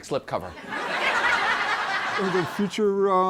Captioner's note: laughter